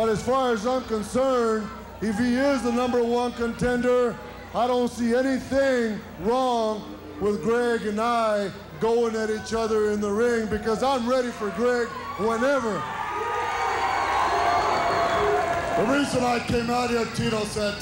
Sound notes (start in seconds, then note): 7.1 crowd cheers